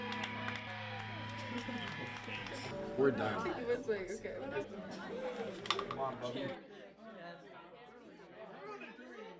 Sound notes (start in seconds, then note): 4.7 people talking